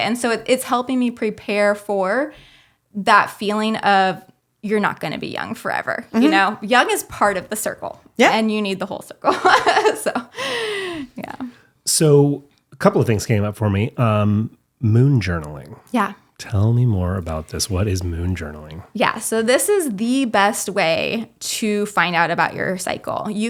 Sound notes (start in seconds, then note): 9.3 laughs